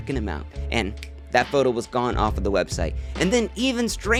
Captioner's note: fingersnap